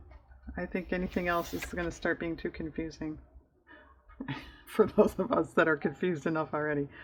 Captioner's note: laughs